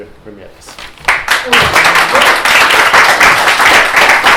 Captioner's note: applause